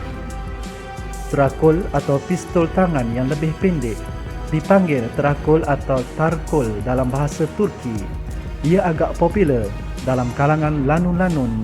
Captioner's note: in Turkish